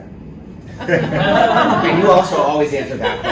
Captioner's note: laughter